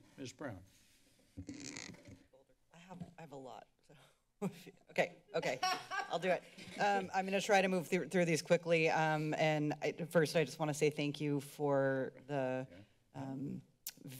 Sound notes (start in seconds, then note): 5.4 giggles; 5.4 laughter